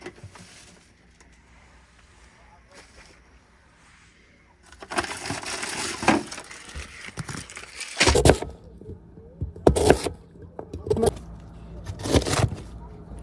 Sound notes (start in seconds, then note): 8.8 vegetables crunching